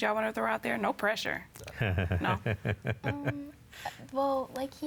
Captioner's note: laughs